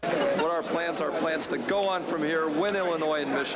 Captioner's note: crowd Noise